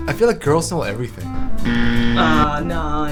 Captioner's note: buzzer sound